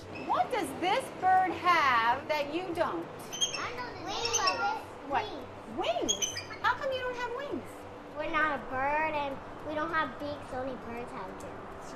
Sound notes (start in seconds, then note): 3.3 children all talking